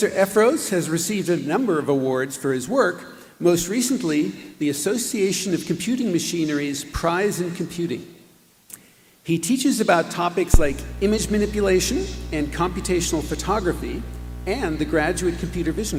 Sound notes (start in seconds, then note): none